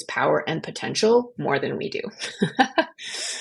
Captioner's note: laugh